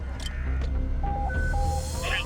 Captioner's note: beeping